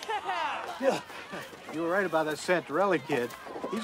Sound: grunts

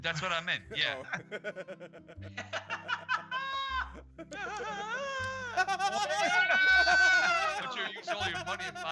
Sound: laugh

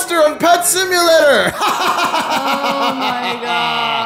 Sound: laughs maniacally

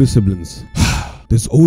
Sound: sigh

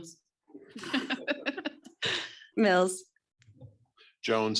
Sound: laughs

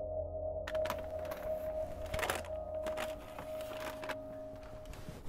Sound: ominous music plays; paper bags rustle

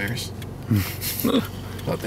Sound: chuckles

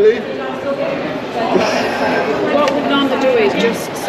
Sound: laughing

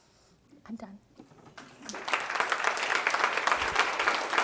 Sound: audience applauds

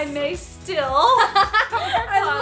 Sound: laughing

